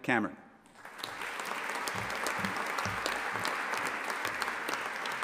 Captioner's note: audience applauding